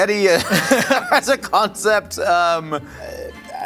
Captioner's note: laughing; laughs